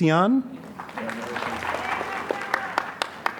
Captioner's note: applause